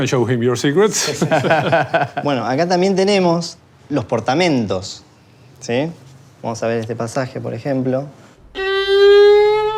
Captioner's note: speaks Spanish